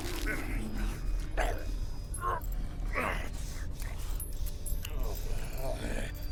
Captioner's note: Brocheet grunting and groaning